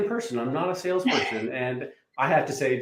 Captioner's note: chuckles